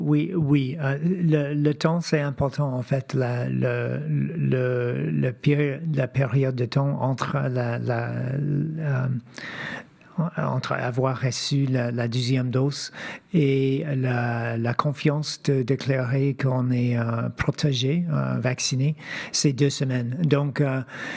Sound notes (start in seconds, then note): 10.4 speaking French